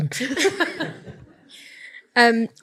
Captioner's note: audience laughs